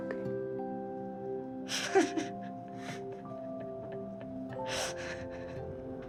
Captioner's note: laughing